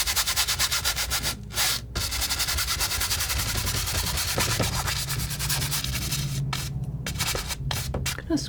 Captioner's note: scratching